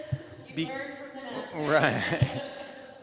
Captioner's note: speaking faintly